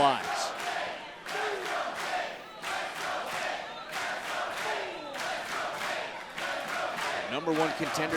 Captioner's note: crowd cheering